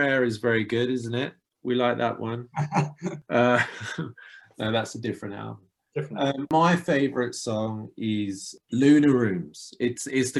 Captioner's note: laughter